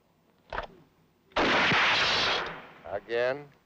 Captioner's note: gun fires